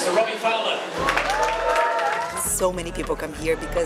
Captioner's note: crowd cheering